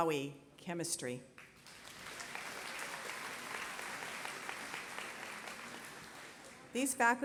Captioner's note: applause